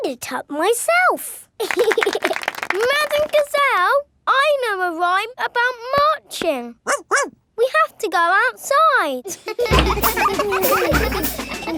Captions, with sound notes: I made it up myself! (LAUGHING AND CLAPPING) Madame Gazelle, I know a rhyme about marching. (BARKS) We have to go outside! (CHILDREN LAUGHING)